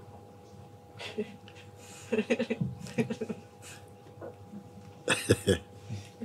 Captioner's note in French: rires